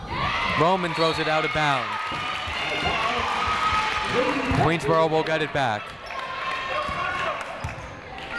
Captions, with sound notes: Roman throws it out of bounds. (people cheering in the crowd) Queensborough will get it back.